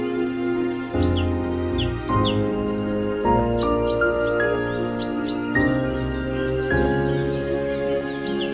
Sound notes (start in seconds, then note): 2.3 birds chirping